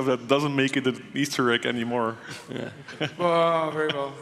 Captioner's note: chuckles